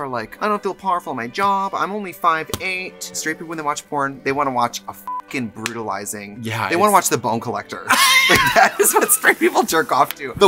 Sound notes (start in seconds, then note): 5.0 beep